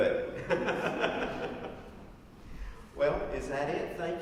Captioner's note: laughs